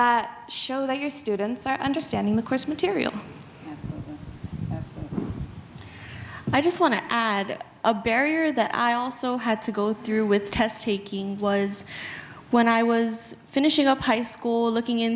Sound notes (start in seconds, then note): none